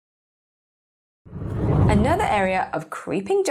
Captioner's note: air whooshing